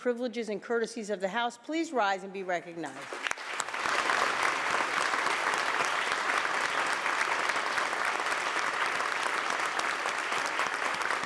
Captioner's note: applause